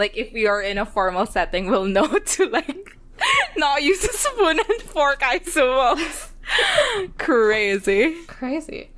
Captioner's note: laughs